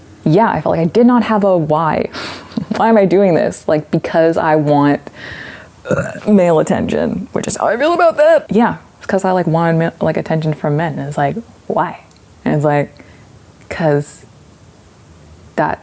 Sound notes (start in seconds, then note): 5.8 burps